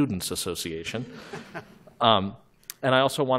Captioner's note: laughter